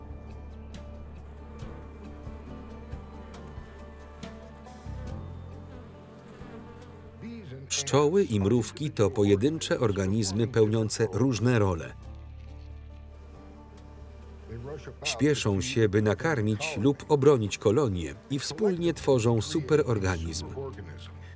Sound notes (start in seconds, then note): 1.5 bees buzz